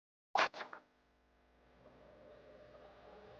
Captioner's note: rod swishes